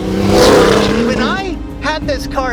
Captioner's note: engine revs